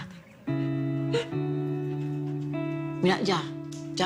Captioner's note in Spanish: Sollozos